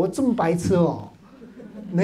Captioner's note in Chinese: 哈哈哈